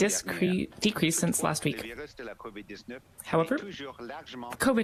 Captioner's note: speaking french